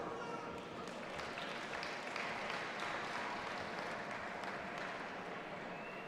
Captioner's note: audience applauding and cheering